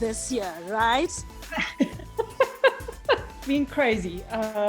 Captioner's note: laughs